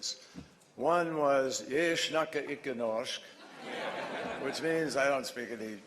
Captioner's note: In Norwegian; laughter